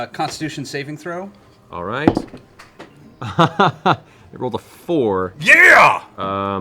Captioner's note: laughs